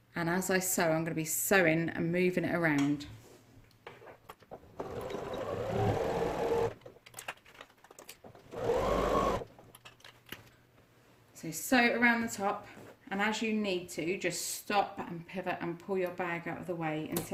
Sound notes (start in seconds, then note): 4.0 sound of sewing machine